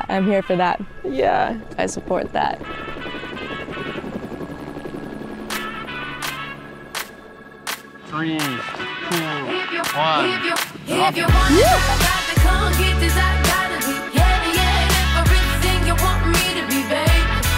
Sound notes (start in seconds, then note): 3.2 helicopter blades whirring; 3.2 upbeat music